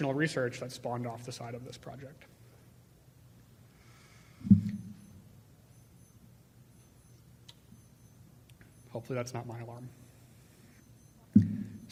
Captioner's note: beeping